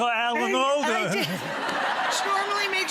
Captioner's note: audience laughs